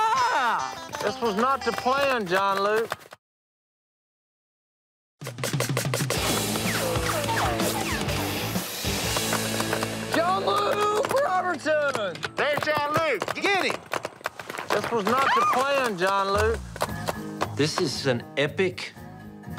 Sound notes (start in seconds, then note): 6.9 paintballs ricocheting; 8.9 paintballs firing